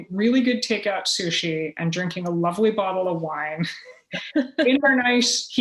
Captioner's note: laughter